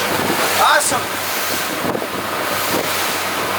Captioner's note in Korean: 감탄